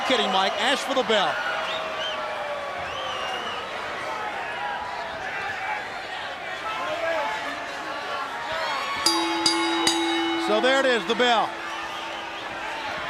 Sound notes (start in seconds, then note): 3.9 crowd chatter; 9.0 bell ringing; 12.6 crowd cheering